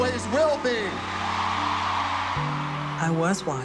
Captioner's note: crowd cheering